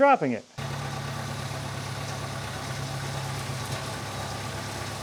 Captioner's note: machinery rumbles